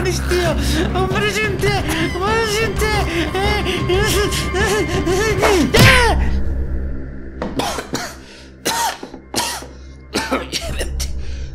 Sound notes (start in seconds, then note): 7.5 coughs and tries to breathe